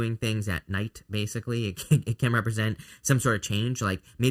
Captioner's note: laughs